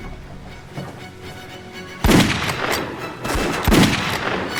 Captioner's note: gunfire